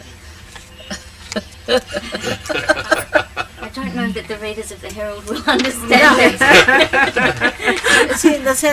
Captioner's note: laughter